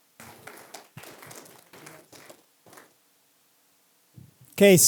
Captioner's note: applause